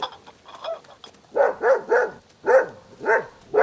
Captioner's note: gena barks